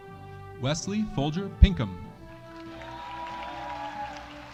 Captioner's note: audience applauding